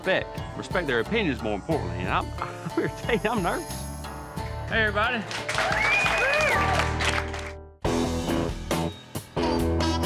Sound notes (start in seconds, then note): 5.4 cheering